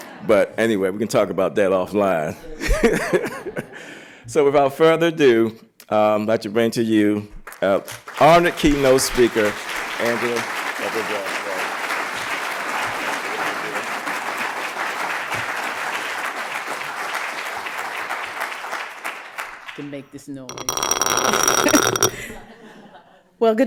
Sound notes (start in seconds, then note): 0.0 laughter; 2.4 laughter; 12.1 applause